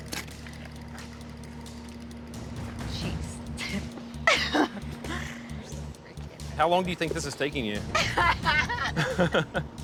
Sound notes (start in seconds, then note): 4.2 giggles; 7.9 laughs; 7.9 chuckles